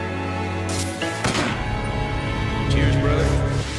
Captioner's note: gunshots pop